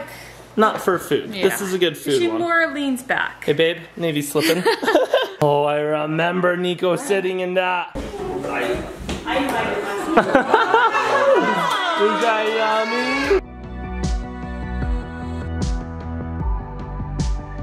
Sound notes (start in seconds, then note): 4.4 giggle; 10.2 laughs